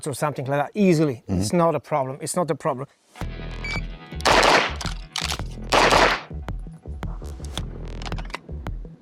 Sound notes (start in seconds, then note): 3.6 gadget beeps; 4.2 gunfire popping